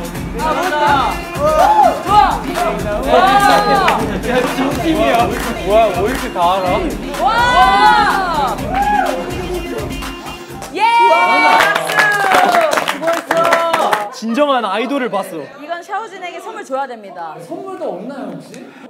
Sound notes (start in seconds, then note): 3.4 clap